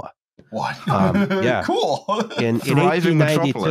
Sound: laughs

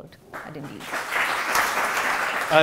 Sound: applause

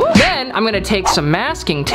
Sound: smack sound

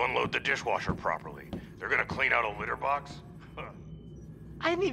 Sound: scoffs

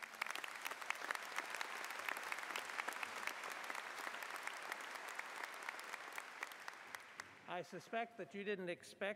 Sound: applause

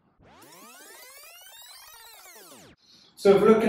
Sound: fast forward buzzing

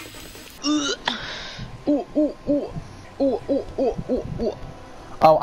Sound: making a bunch of weird noises

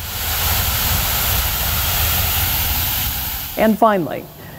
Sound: water gushes

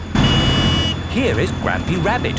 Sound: honking

